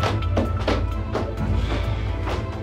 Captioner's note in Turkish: İç çekiyor